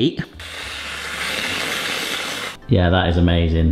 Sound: cream nozzle hissing

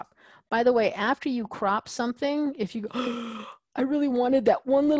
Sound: gasps

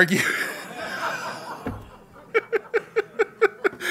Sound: laughs

